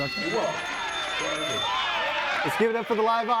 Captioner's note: audience cheering